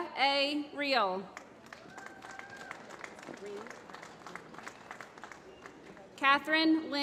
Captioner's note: applause